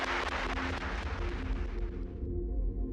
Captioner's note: audience applaud